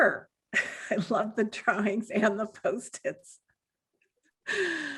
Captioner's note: chuckles